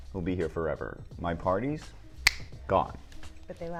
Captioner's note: snap